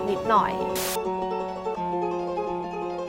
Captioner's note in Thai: เสียงโทรทัศน์